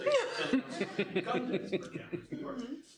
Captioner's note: laughing